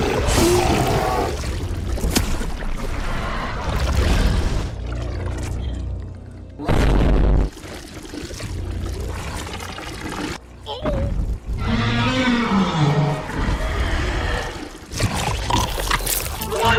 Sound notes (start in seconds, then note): 11.6 Godzilla roars in pain